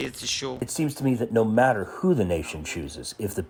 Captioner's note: through translator